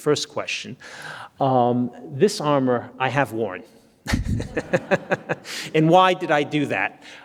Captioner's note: laughs